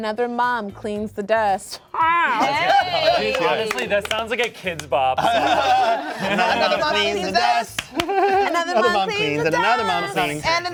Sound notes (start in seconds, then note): 2.0 cast exclaims; 5.2 cast laughs